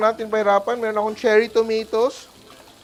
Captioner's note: sizzles